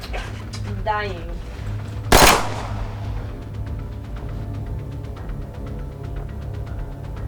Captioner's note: gunshots boom